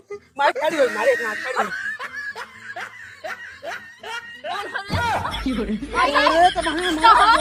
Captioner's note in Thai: เสียงหัวเราะ